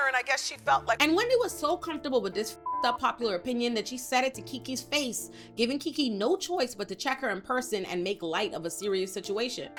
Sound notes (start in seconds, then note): 2.6 beep